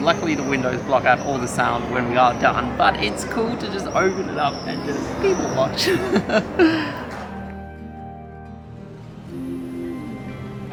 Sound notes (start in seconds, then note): 5.7 laughs; 7.9 relaxing music